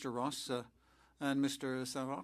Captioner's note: speaking French